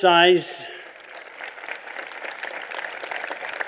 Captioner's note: applause